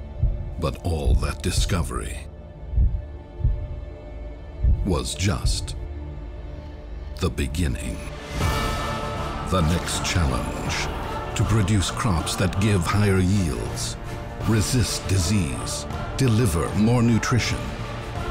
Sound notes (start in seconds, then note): 2.6 heart beat; 9.2 epic music resumes